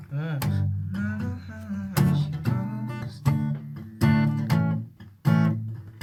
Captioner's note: humming along to the song